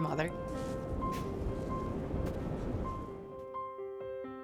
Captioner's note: ocean crashing; soft piano music continues